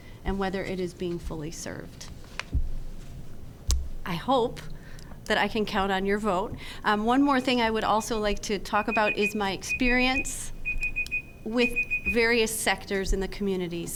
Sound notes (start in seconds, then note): 8.6 timer beeps